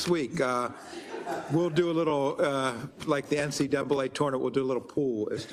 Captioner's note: laugh